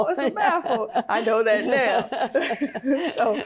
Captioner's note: both laugh